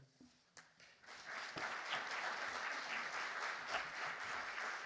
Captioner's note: audience clapping